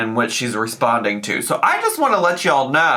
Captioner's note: none